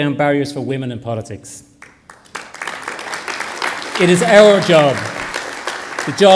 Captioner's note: applause